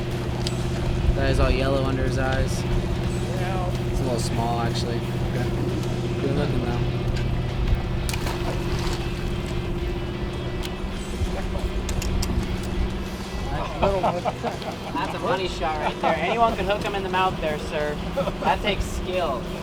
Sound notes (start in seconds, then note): 7.3 water splashes; 13.7 laughter